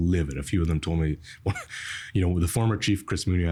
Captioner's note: laughing